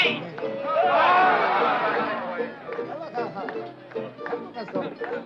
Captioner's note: everyone shouting